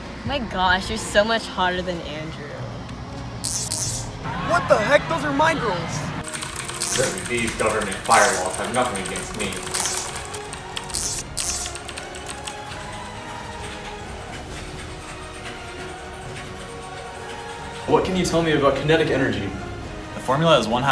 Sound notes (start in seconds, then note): 6.3 loud keyboard noises; 10.7 static and keyboard noises continue